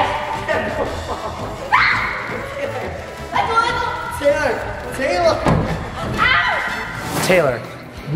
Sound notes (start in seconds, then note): 1.7 screams; 2.5 laughter; 5.4 stomping sounds